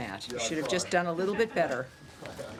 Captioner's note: laughter